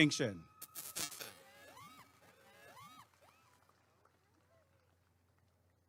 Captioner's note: applause and cheering